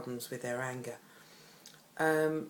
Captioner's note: Vietnamese